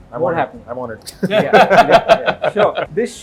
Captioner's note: laughs